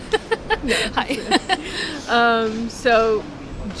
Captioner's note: laughs